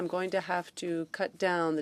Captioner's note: speaking French